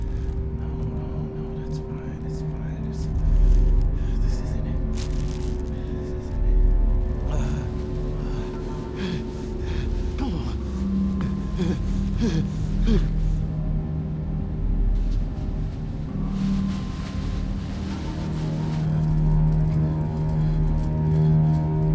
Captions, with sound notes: No, no, no, that's fine. It's fine. This isn't it. This isn't it. ( GASPING ) Come on.